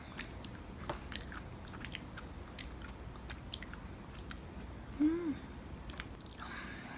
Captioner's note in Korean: 입맛 다시는 중